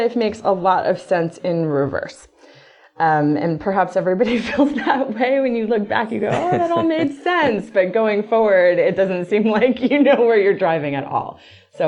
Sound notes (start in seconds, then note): 6.0 laughs